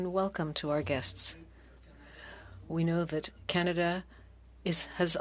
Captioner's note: speaking French